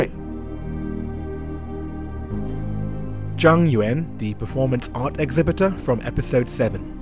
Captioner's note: voiceover